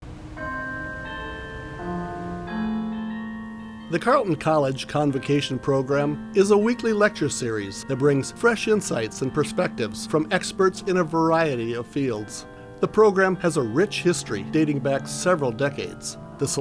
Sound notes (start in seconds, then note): 0.4 bell tolling